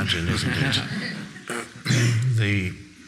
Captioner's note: audience laughing